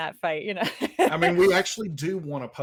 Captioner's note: laughs